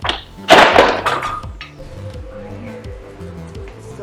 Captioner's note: door thudding